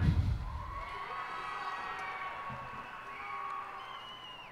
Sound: cheers and applause

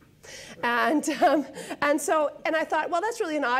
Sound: laughs

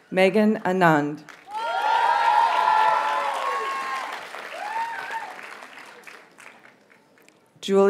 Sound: audience cheers and applauds

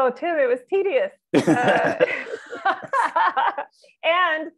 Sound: laughter

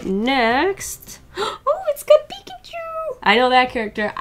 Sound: gasps

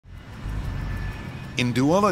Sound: engine running

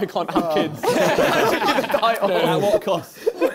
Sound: both laughing

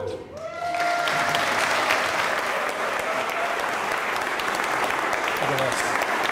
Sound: applause

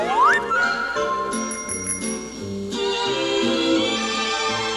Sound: slide whistle; bell chiming; whimsical music

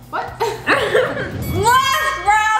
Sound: laughs; bell rings

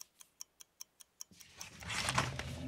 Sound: clock ticking

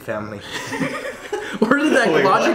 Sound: laughing

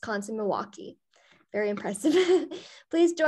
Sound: laughter

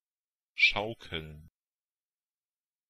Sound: fast Pronunciation

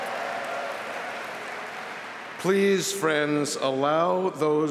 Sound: applause

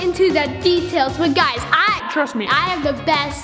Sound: distorted voice

